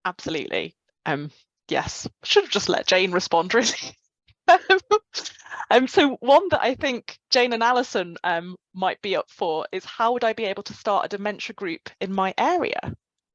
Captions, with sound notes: - Absolutely. Yes. Should have just let Jane respond really. (laughing) So one that, I think Jane and Allison might be up for is "How would I be able to start a dementia group in my area?"